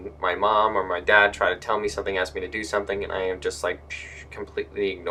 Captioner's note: pshh